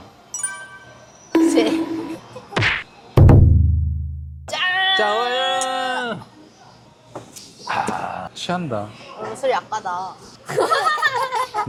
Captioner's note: laughs